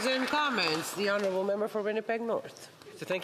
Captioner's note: applause